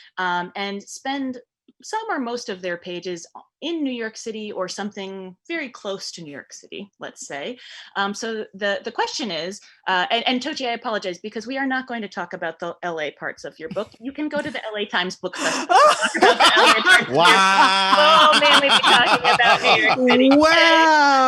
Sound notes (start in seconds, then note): 15.4 all laughing; 15.4 laughing